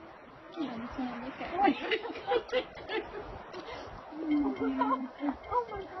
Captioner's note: sniffling; laughter